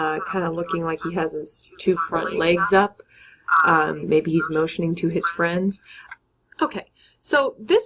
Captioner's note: narrator voice